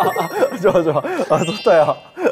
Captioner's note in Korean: 까르르